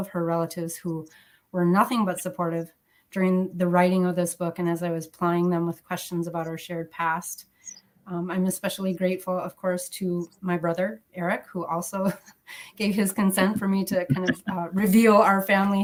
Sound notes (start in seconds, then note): 13.4 laughs